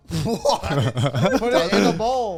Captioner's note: laughs